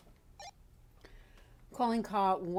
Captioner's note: radio bleeps